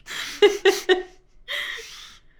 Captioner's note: host laughing